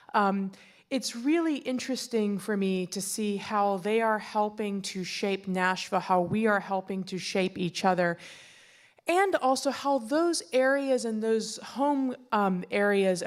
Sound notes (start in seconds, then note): none